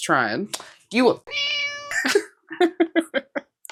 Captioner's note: meow